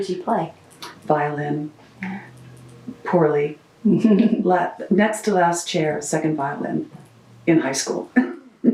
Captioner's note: laughs